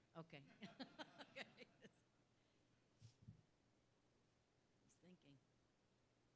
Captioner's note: laugh